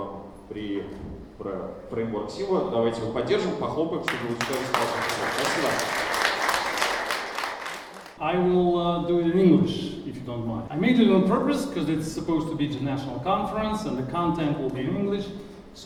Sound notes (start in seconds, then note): 4.0 audience applauding